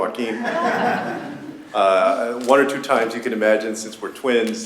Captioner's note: laughter